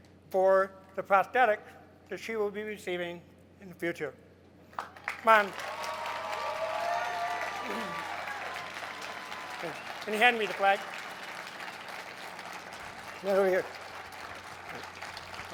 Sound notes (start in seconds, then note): 6.0 crowd cheers